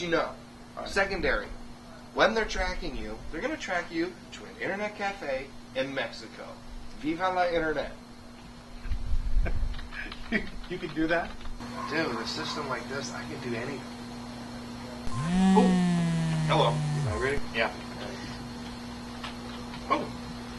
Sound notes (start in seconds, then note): 8.3 laughs; 15.1 phone vibrates